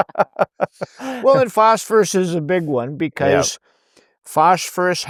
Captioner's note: laughing